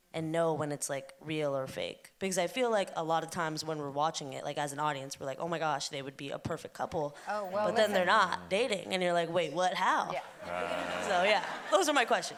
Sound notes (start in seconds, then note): 10.2 chuckles; 10.2 audience laughing